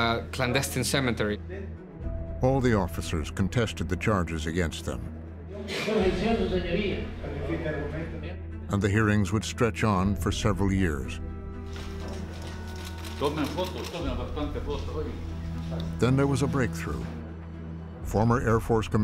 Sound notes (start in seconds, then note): 6.2 speaking Spanish; 13.2 speaking Spanish